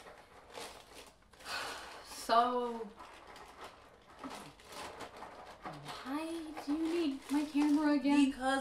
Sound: sigh

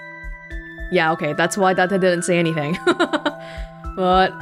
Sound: chuckles

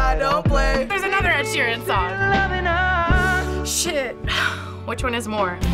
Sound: sighs; inhales sharply

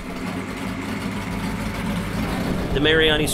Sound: engine humming

